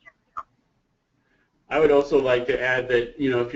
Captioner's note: voiceover